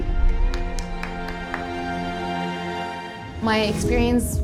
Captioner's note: hands clapping